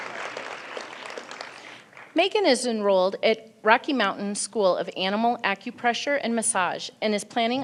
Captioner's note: applause